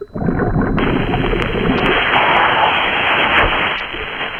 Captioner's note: regulator hissing; water burbling